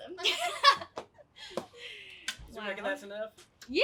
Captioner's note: women laugh